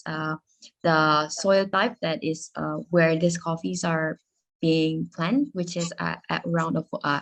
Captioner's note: speaking Spanish